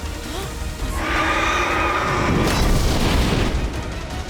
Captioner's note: crow screeching; intense music